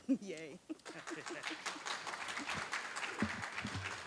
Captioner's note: applause